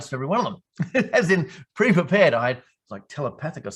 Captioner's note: laughing